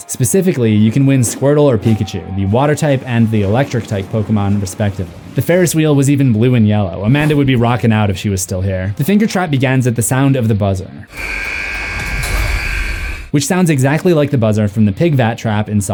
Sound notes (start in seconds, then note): 11.1 buzz